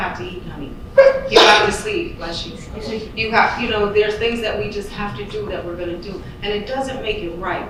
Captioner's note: audience member sneezes